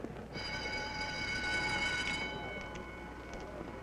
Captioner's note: alarm blares